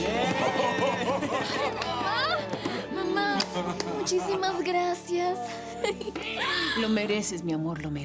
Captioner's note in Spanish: Exclamaciones